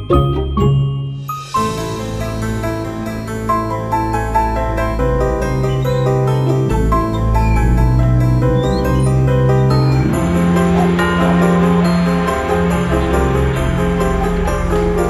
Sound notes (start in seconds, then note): 7.4 swings creaking